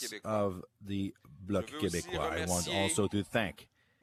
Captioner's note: chanting